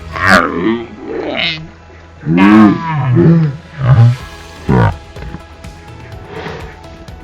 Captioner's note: laughs